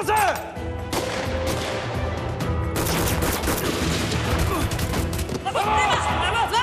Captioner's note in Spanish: Disparos; Gritos